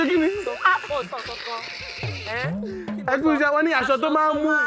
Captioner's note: laughs